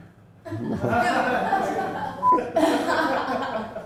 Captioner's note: group laughs